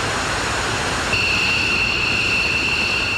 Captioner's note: plane noise